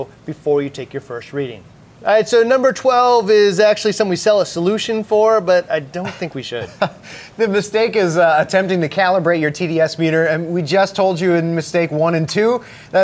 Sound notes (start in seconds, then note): 6.0 chuckles